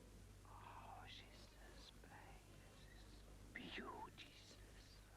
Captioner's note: Rothrar whispering